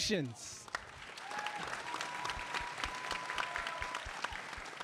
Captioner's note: audience applauding